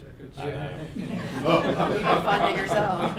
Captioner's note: laughing